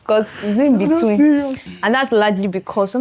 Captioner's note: laughs